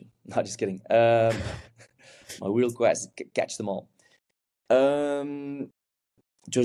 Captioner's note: chuckles